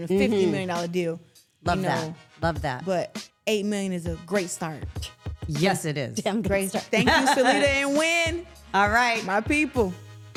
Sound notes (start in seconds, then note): 6.6 laughing